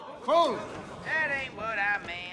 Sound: gasps

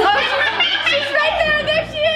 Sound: laughs

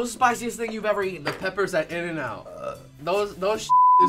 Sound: belching

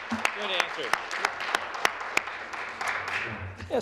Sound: applause

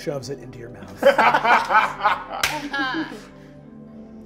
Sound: players laughing

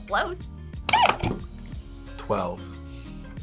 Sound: buzzer squeaks

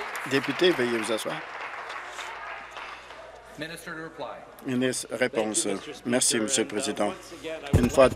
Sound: applause

